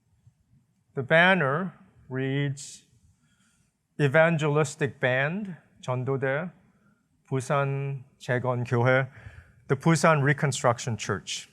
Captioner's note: korean